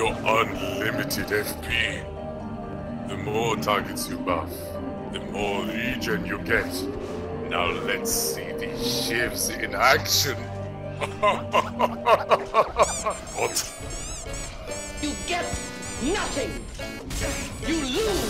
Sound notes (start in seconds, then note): 11.0 evil laughter; 12.8 squeaky toy sounds